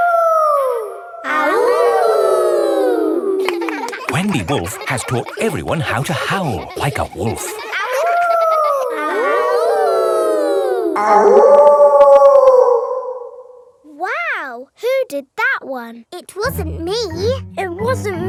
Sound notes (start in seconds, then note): 0.0 howling; 1.7 kids howling; 7.9 howling; 9.6 kids howling; 11.6 wolf howling loudly